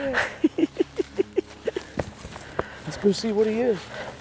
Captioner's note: laughing